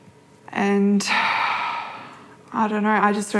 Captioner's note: sighs